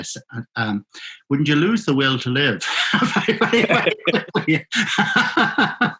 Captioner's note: laughing